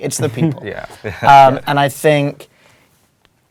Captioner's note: laugh